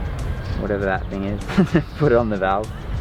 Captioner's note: laughs